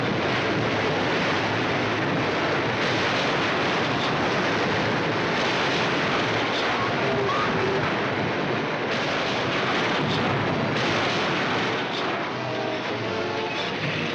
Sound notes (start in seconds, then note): 0.0 big crash; 6.5 metal twisting & destruction; 11.0 metal grinding